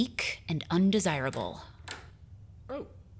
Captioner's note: door opens